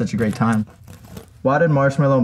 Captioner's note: sticker rips